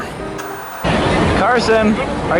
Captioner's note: white noise scratching